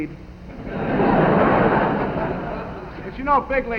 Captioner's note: audience laughing